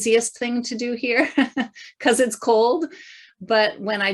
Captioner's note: chuckling